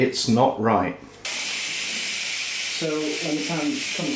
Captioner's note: pressure cooker hissing